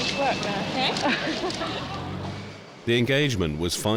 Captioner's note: reporter chuckling